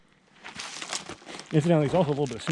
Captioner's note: bird chirping; rocks tumbling